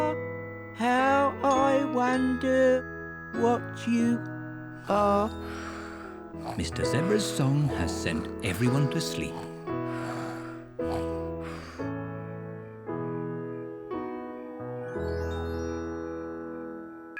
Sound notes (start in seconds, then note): 4.7 all snore